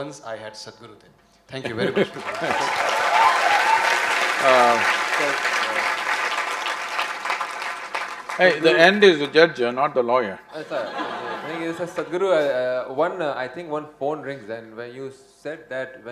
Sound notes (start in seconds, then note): 10.5 laughter